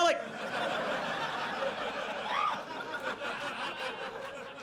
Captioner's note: audience laughs